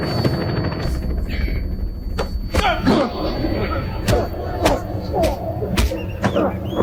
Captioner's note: blows thudding; men grunting